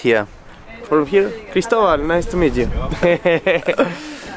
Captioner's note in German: Lachen